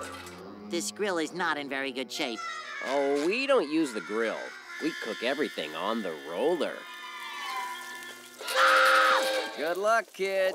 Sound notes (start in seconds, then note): 7.9 screaming